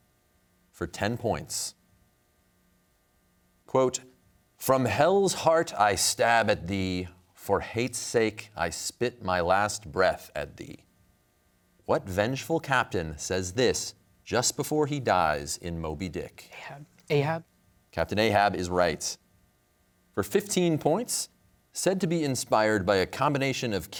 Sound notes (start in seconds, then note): 16.5 whispering